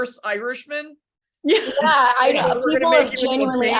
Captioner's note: laughs